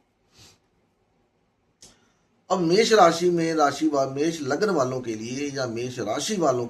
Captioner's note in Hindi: नाक से की जाने वाली आवाज़